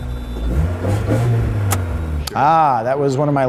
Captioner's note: engine revving